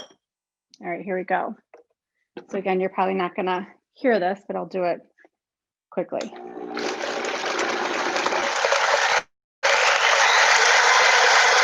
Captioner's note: whirring